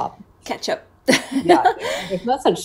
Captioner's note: laughs